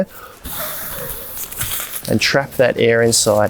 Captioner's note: blows air